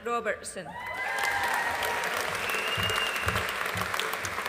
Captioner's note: audience applauding